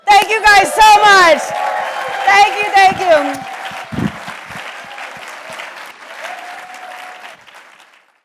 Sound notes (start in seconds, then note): 3.2 blows kiss; 4.1 audience applauds